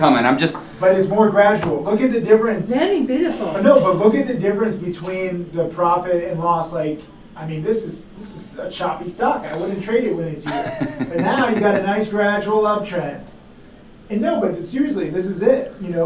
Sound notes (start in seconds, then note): 10.4 chuckling